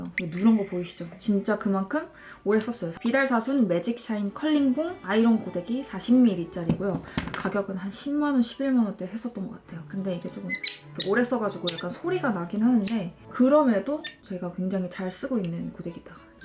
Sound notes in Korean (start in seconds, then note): 10.5 삐걱 삐걱